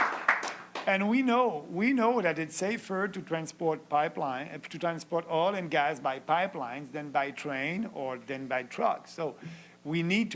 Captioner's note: applause